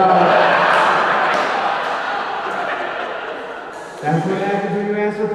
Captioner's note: audience laughing